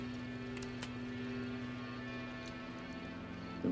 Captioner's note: trigger clicks